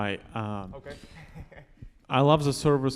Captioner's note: laughs